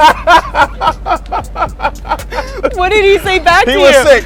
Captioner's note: laughter